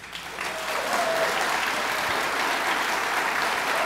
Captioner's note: audience applauds